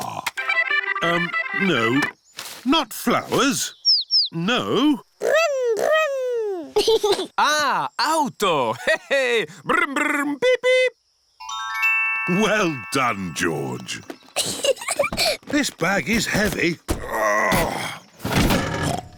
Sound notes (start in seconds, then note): 0.3 music on radio; 6.1 giggles; 14.4 peppa giggles; 16.9 grunts